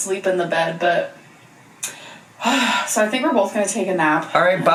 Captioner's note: sighs